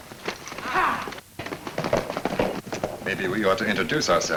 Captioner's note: men shout